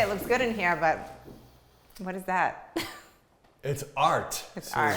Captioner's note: chuckles